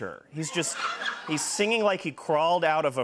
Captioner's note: laughter